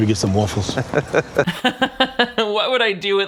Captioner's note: laughing